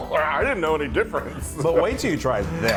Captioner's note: laugh